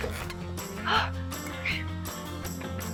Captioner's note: gasps